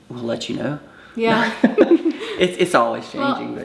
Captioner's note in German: lacht